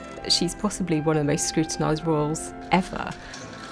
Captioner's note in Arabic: أصوات الكاميرات